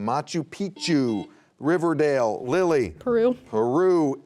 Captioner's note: buzzer beeping